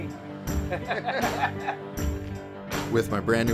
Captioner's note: laughter all around